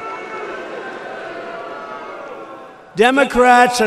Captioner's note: booing